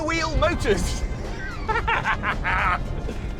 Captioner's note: laughter